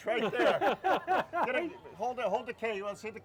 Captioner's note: laughing